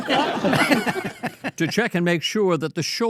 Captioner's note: all laugh